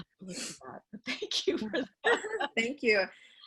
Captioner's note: laughing